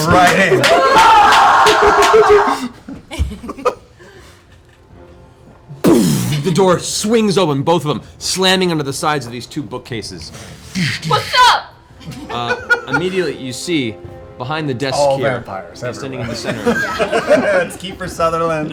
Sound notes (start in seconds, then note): 2.6 scream and cheer; 5.8 impact noise